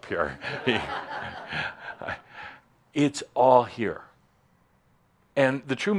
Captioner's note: a few more chuckles